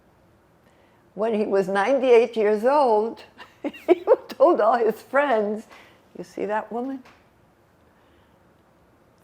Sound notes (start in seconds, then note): 3.4 laughing